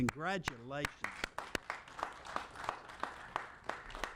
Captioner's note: applauding